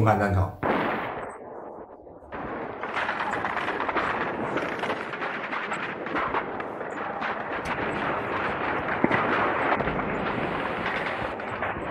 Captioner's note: sounds of artillery fire